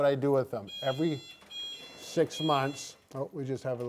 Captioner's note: alarm sounding